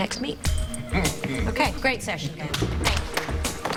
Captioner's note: chuckles